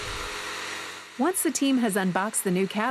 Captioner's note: handsaw whirring